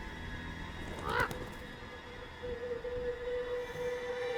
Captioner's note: crow caws